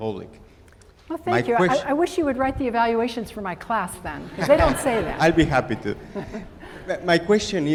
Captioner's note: laughter